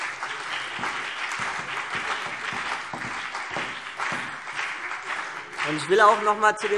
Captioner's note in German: Beifall CDU und BÜNDNIS 90/DIE GRÜNEN